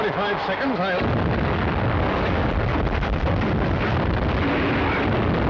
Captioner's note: cannons firing